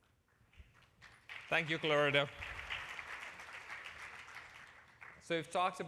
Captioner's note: applause